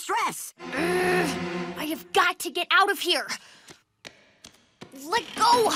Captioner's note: growls